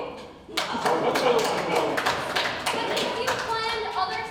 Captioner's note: ensemble applauds